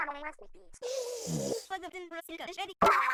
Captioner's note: grumpy lackey steams bitterly